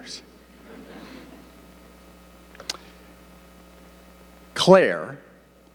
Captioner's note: audience laughing